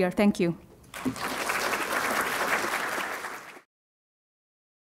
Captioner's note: applause